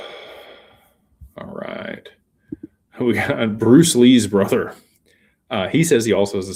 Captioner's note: sighs